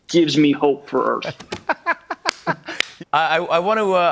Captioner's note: laughs and applauds